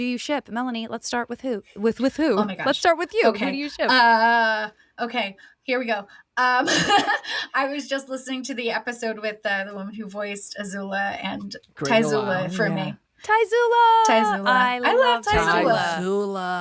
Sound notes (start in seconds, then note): 6.6 laughing; 11.8 exclaims